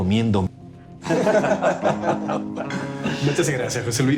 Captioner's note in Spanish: Risas